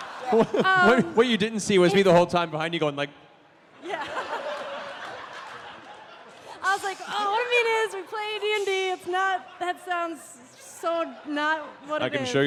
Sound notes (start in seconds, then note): 3.8 laughter